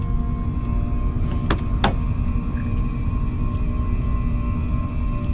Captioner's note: tool clicks; suspenseful music continues